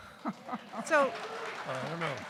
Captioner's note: audience applauding